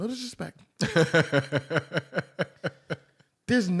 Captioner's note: laughter